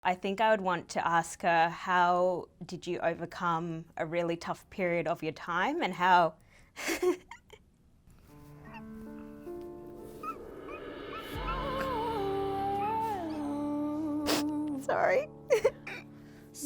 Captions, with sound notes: - I think I would want to ask her, how did you overcome a really tough period of your time, and how (laughs). (sobbing) Sorry.